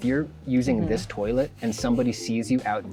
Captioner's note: pat